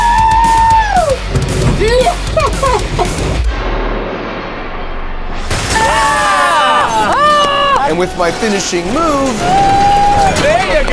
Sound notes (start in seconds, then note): 3.4 car crashing; 3.4 glass shattering; 5.7 friends cheering and clapping